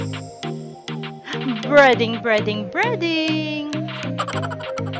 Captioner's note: laughing